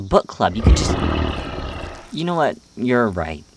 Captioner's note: Azazel growl; Ignota sighs